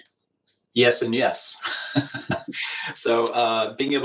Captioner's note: laughs